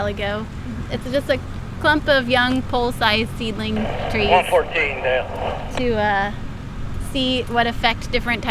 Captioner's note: radio traffic